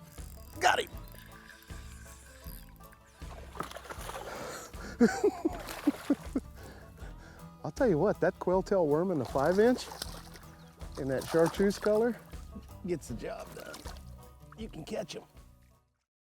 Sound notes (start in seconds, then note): 4.8 laughs